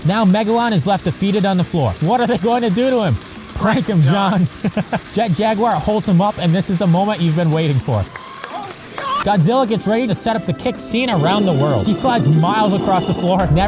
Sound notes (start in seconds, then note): 8.7 sus noises